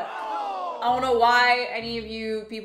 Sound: crowd exclaims

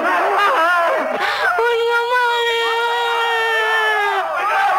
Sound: cries

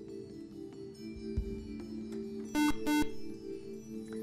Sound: buzzer

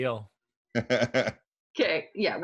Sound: chuckling

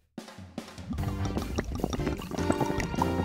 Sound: paint gurgling

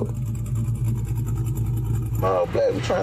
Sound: engine roaring

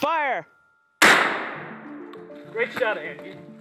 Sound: gunshot

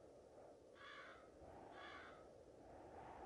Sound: the crow barks

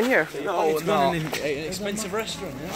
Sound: general disagreement

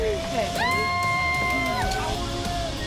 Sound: cheering

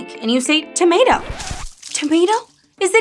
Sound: screen scratching

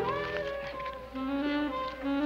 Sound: whispers

